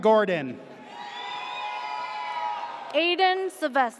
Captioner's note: audience cheers